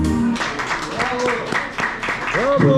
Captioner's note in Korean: 박수